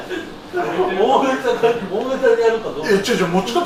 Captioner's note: laughs